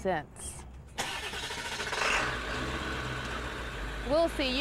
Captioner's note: starts engine